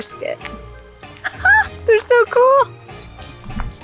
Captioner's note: laughs